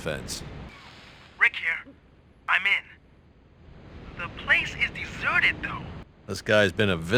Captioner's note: hacker voice